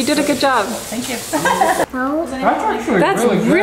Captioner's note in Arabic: تضحك